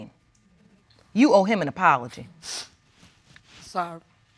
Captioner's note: sniffles